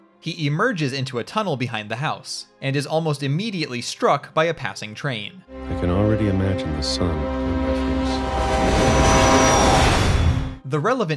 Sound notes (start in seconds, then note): 8.3 train whistle